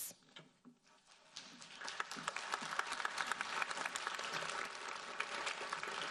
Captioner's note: audience applauding